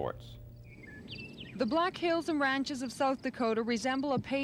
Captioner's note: birds tweet